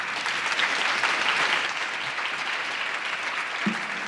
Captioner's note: audience clapping